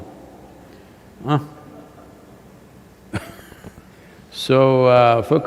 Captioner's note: laughs